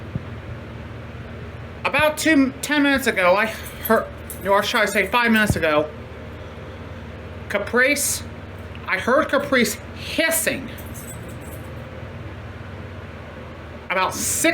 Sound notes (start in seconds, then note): none